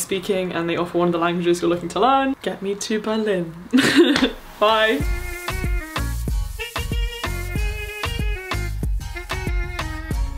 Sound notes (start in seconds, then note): 3.7 chucking; 5.5 upbeat music